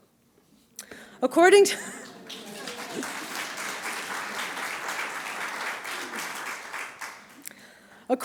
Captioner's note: applause